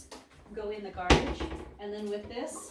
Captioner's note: cabinet door bangs